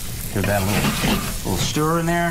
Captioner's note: sizzling